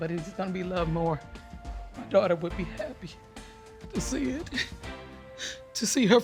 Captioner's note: voice breaking